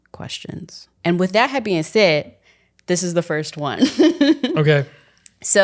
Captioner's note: chuckling